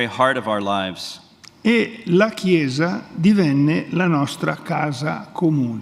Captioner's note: speaks in Italian; speaks in Italian